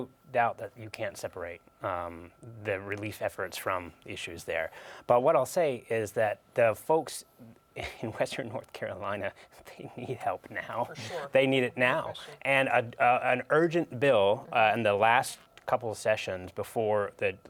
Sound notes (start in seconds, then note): 10.9 chuckling